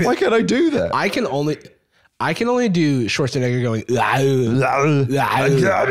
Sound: incomprehensible Austrian noise

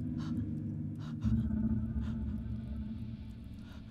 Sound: Mia panting

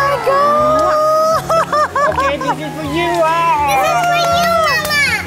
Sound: ecstatic laughter

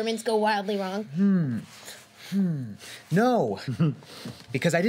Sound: chuckles

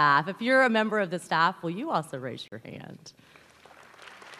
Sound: applause

